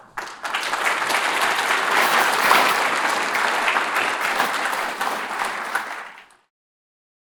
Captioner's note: applause